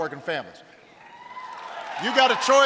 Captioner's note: applause